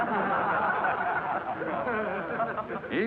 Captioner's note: class laughs